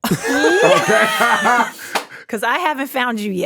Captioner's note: hosts laugh